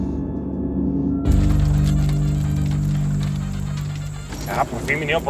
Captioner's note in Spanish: Ruido del vehículo